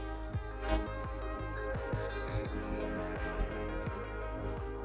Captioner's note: orb shimmering